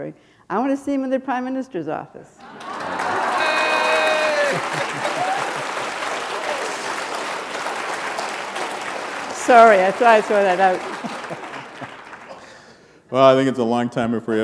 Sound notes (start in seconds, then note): 5.7 applause